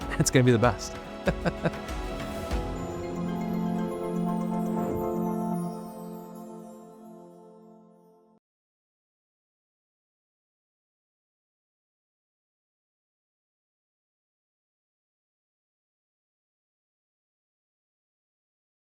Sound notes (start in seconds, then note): 1.2 laughing; 2.7 bright music; 4.5 transition whooshing